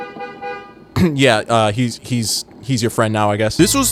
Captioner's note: clears throat